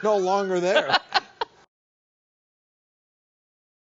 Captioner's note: laughing